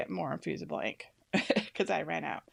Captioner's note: laughs